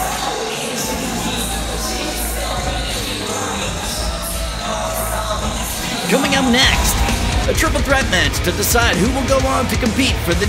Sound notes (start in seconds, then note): 2.8 cheering continues; 6.2 voiceover